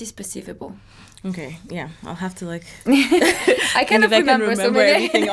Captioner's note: both laughing